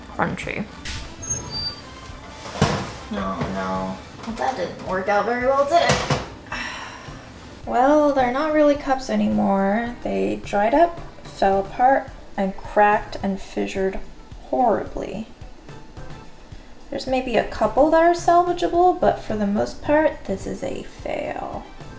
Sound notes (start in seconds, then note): 0.0 crackling sound; 2.3 rattling sound; 6.0 rattling sound; 15.3 upbeat music